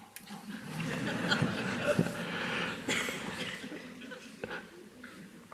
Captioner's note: audience chuckles